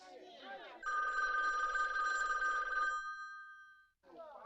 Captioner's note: phone ringing